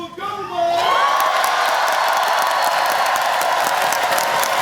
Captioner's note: applause